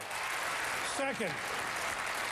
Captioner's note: applause